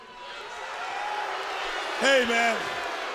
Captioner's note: crowd boos